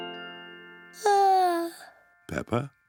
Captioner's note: yawns